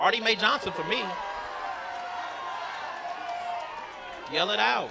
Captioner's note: yelling